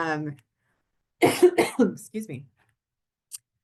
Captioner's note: coughs